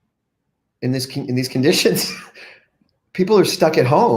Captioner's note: laughs